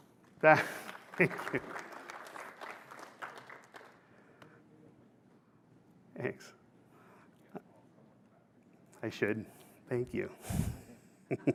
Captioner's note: applause